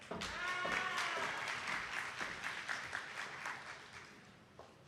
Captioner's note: attendees clapping